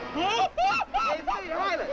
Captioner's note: Timotheus screaming